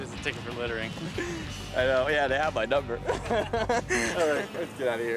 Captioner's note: laughs